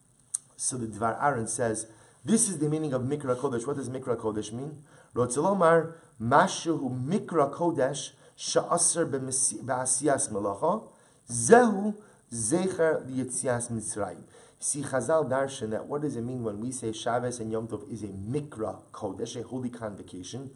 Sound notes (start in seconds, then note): 6.2 Hebrew